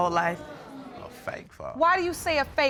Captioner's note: audience exclaiming